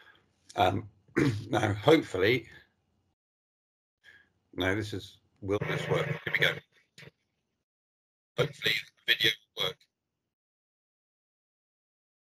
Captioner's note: video plays and audio cuts out